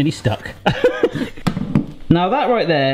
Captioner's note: laughs